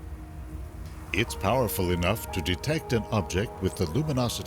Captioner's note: voiceover